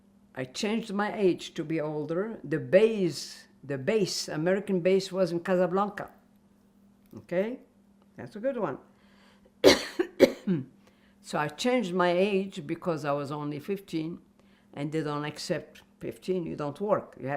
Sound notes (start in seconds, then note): 9.6 coughing